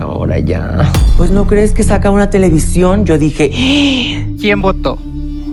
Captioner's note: gay gasp